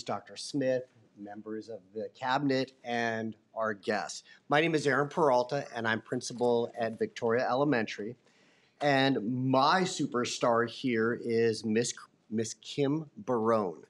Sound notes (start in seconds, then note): none